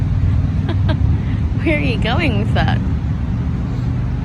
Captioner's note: chuckles